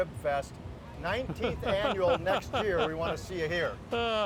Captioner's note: laughs